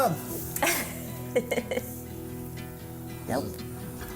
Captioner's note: laughs